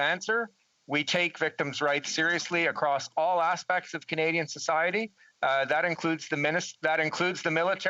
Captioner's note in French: voix de l'interprète